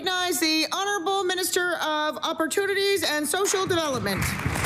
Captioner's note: applause